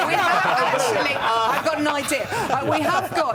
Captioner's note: laughter